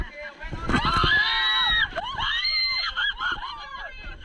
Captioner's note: screaming - RIP headphone user